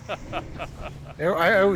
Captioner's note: laughs